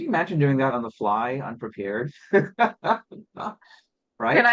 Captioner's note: laughs